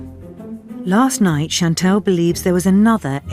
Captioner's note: voiceover